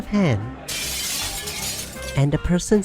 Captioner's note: rowdier crowd; glass breaking noise